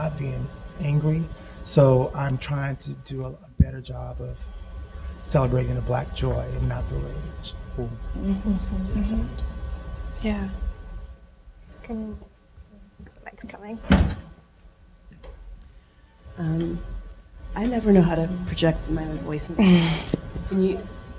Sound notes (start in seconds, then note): 8.2 murmuring